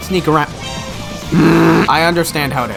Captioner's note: detection sound effect